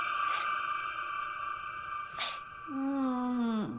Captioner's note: whispers